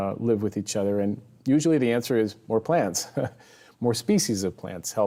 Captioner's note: chuckles